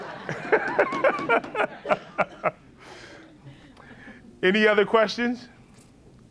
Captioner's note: laughs